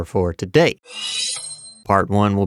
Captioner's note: sword shwwwwiiiiing